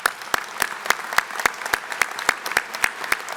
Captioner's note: applause